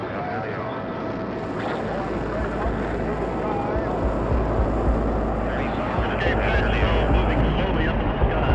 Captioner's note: rocket whooshing, man talking indistinctly